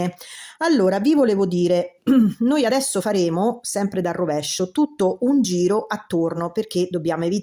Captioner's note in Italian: schiarire la voce